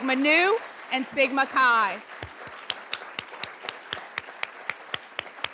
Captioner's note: everybody applauds